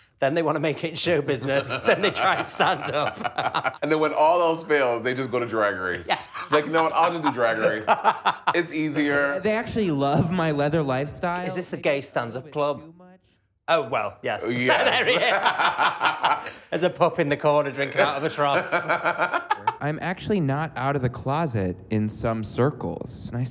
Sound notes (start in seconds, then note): 3.1 laughing; 14.4 laughing; 17.8 laughing